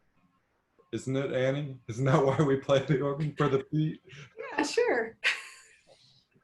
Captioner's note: laughs